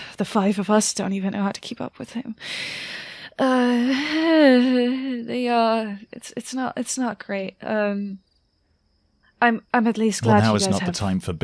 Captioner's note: sighs